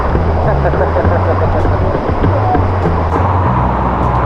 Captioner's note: laugh